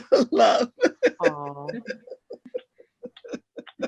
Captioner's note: laughs